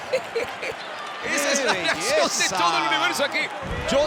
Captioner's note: laugh